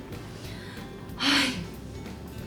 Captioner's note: sigh